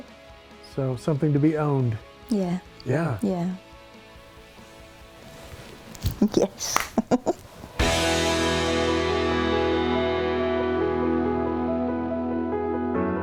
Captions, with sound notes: So something to be owned. - Yeah. - Yeah - Yeah. - Yes (laughs)